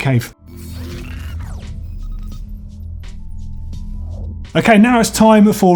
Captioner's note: whirring and beeping